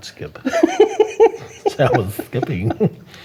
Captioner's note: laughing